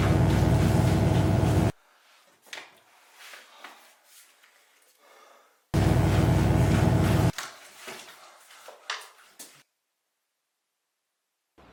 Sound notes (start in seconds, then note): 0.0 electric buzzing; 5.8 electric buzzing